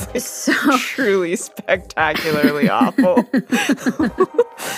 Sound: laughing; laughs

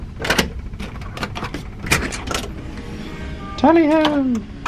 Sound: latch clunking

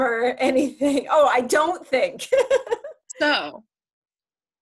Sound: laughs

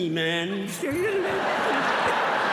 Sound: laughter

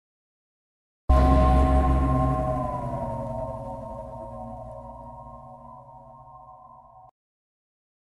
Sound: simply spooky sound

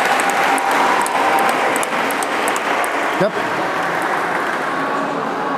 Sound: applause

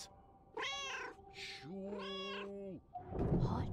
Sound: Hodge meowing

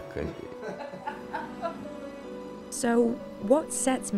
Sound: laughing

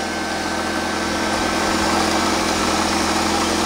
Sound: machine whirring

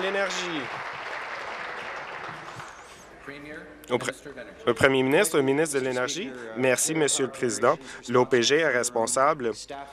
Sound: some Applause

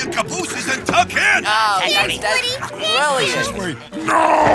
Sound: all chatter and exclaim

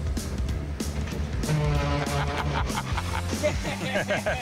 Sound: loud blaring noise; laughs

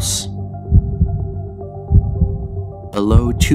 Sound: heartbeat pounding

